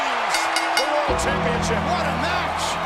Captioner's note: bell dinging